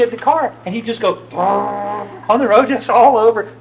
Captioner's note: makes engine sound